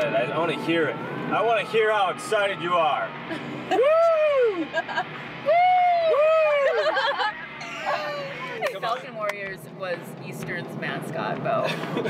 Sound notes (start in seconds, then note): 4.6 laughing; 7.6 laughing; 11.8 chattering